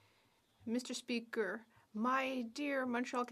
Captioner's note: speaking French